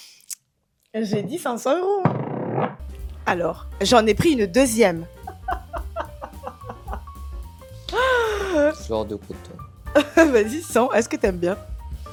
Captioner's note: laughs